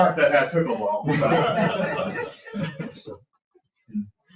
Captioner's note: people laugh